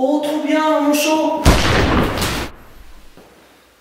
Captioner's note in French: Coup de feu